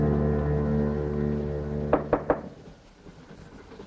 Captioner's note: knocking